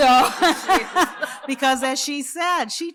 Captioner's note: laughter